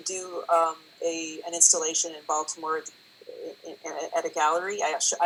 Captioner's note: French language